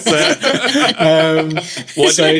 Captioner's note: laughing